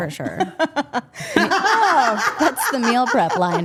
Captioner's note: women laughing